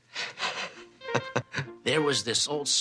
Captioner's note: chuckling